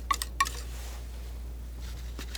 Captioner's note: scratching